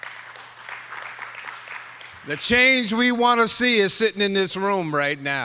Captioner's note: applause